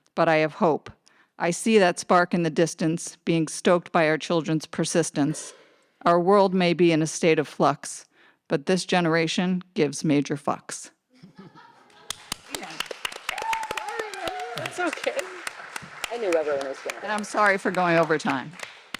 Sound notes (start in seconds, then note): 11.5 audience member laughing; 11.9 audience applauding; 11.9 audience cheering